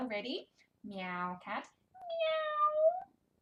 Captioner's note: meowing